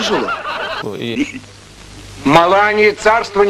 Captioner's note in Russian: смех